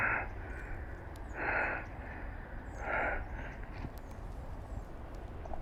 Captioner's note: heavy breathing